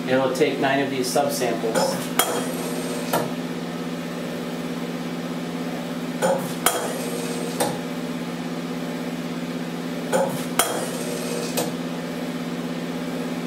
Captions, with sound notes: It will take nine of these subsamples. (machine whirring and clanking)